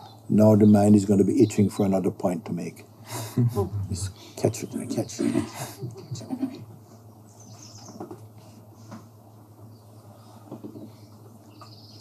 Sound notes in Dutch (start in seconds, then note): 5.2 gelach; 8.9 stilte